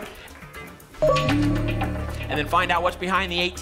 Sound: ping

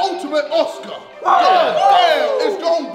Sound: group cheering

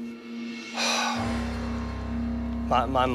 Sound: sighs

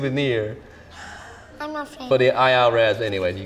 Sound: exhales

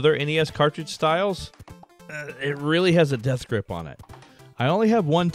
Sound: grunt

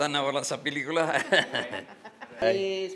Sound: laughs

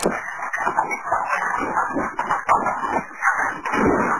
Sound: fire crackling

